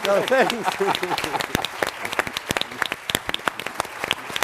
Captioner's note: applause